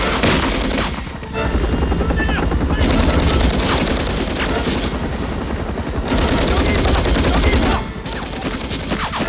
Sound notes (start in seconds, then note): 0.9 Korean; 3.2 gunfire Continues; 5.8 Shouting In Korean